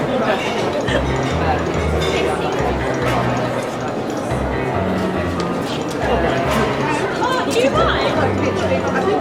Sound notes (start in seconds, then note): 2.8 dramatic music continues; 2.8 group chattering